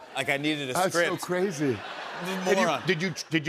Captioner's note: laughter